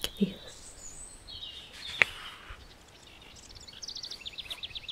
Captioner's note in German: Seitenumblättern und Vogelgesang